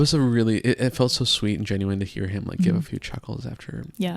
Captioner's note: chimes ringing